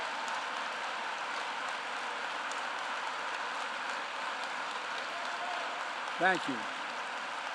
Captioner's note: applause